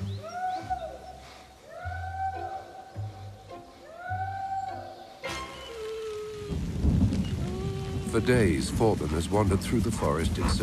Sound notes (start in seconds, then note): 4.2 man shouting; 6.1 Forbin whimpering